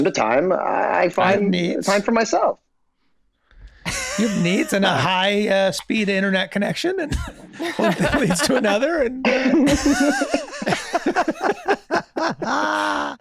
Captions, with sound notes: - From time to time, I find- - I have needs. - Time for myself. - You have needs and a high-speed internet connection and one thing leads to another. (everyone laughing)